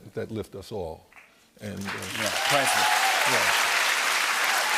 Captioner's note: cheers and applause